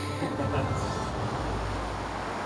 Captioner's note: off-camera laughter